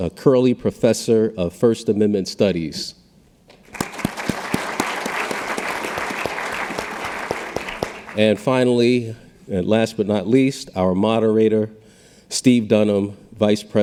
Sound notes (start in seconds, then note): 3.6 audience applauding